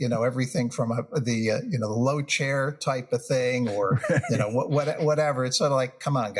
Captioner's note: laugh